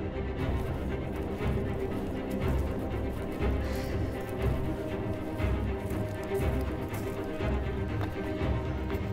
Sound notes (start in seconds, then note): 2.1 gravel crunching